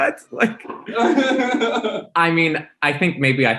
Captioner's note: Symone laughs